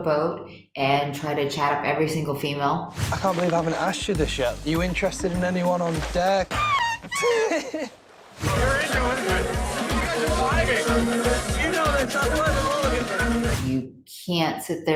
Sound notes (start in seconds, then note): 6.4 balloon squeaks; 8.4 laughs